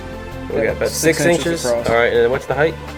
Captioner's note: voiceover